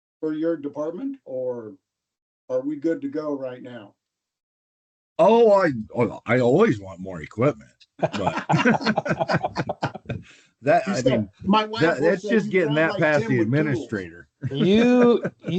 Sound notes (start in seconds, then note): 8.0 laughter